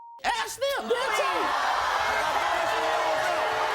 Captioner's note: yelling